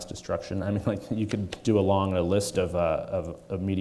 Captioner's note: chuckles